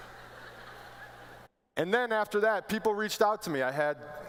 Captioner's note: laughter